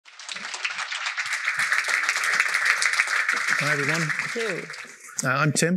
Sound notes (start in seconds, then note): 2.6 applause